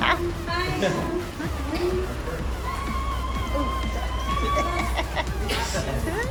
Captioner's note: laughing